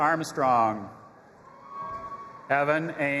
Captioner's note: audience applauding and cheering